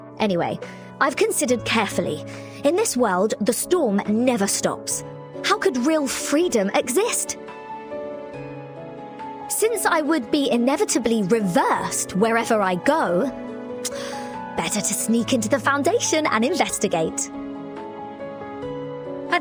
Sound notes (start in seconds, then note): none